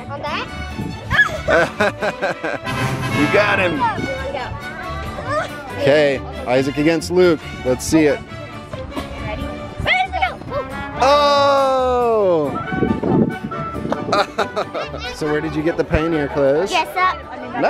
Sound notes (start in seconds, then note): 1.0 squeals; 1.3 laughs; 13.9 laughs